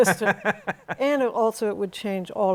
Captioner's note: laughs